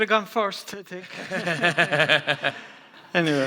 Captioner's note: others laughing